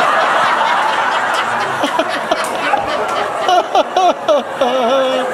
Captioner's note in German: anhaltendes Lachen